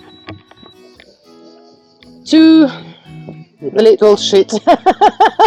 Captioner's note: laughs